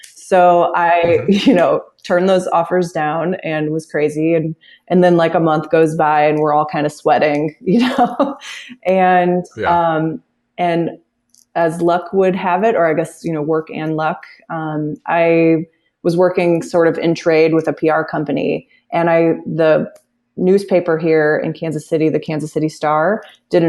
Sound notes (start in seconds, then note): 9.6 laughs